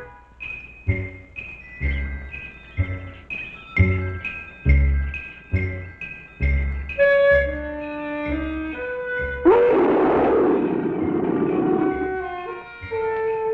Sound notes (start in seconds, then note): 0.2 upbeat instrumental music; 9.5 Pete roaring